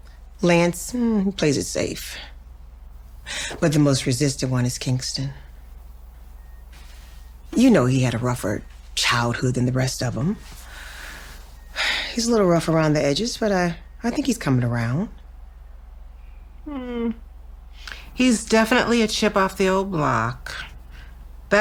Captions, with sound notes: Lance, mm, plays it safe. But the most resistant one is Kingston. You know, he had a rougher childhood than the rest of 'em. (sighing) He's a little rough around the edges, but I think he's coming around. - Hmm. He's definitely a chip off the old block.